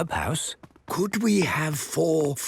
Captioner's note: speaking quietly